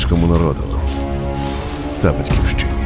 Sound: sound of gunfire

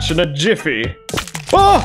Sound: jumpscare

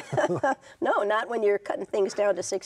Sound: all chuckling

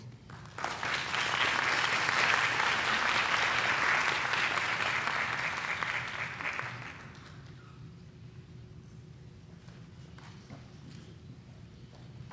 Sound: applause

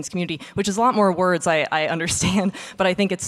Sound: laughing

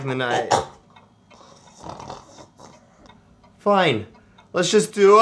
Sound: snores loudly

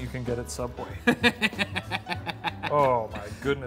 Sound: laughing

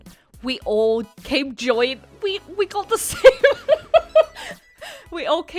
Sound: laughs

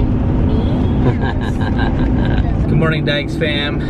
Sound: laughs

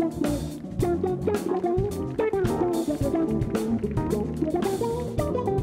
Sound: audience applauding

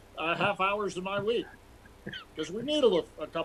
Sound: laughter

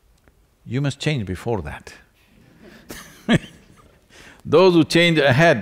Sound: few laugh

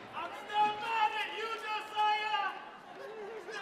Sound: man yelling

